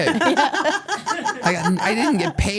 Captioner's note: laugh